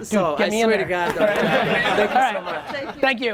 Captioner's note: crowd laughs